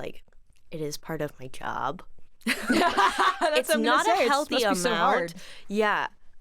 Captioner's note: both laugh